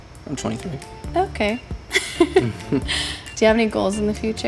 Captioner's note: laughs